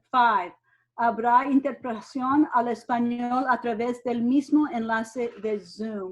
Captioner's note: speaks in foreign language